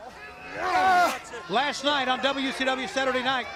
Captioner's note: crowd chatter